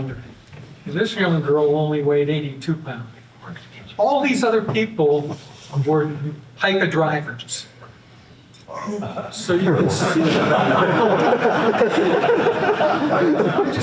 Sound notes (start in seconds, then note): 9.6 laughter